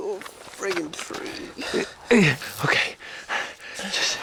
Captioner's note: panting